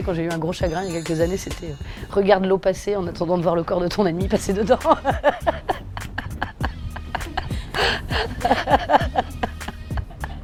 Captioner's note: laughs